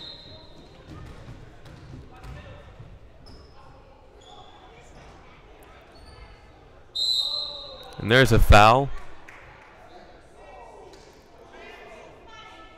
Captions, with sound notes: (whistle blowing) (whistle blowing) And there's a foul.